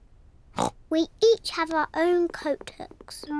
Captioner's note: oinks